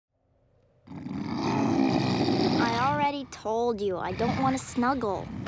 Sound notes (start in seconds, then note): 0.8 growling